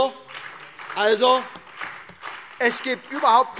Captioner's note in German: Beifall SPD